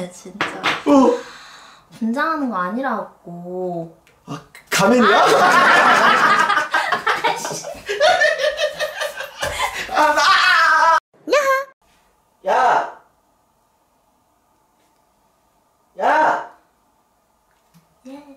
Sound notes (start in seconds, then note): 10.1 Alien Piraña attack